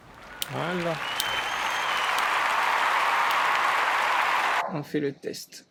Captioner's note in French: applaudissements